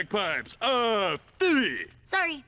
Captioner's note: in Scottish accent